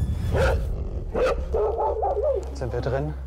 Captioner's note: barking